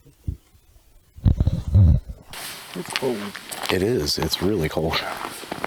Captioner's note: coyote howls